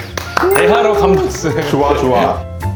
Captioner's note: applause